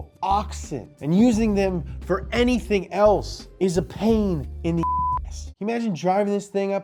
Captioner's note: beep